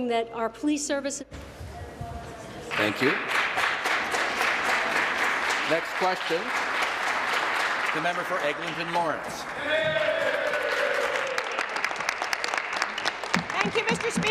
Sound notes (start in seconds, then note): 6.7 applause; 12.6 applause